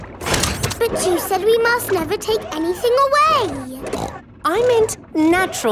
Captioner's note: snorts